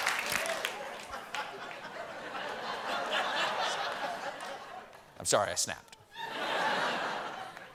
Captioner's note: laughter